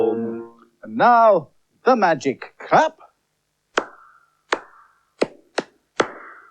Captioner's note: singing; claps Rhythm